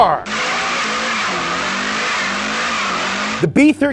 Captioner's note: engine revving